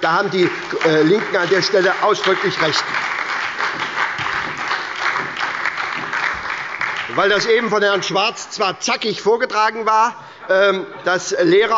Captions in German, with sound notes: An der Stelle haben die LINKEN ausdrücklich recht. (Beifall bei der SPD und der LINKEN) Auch wenn Herr Schwarz eben zackig vorgetragen hat, dass Lehrer